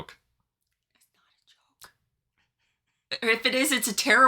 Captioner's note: silently